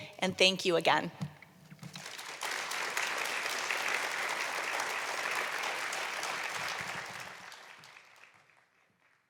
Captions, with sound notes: And thank you again. [APPLAUSE]